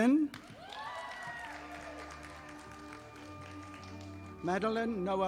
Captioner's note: audience applauding